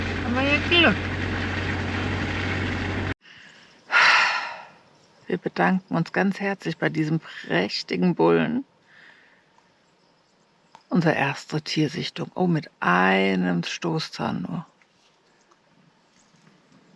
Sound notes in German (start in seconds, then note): 3.8 seufzt; 4.7 japst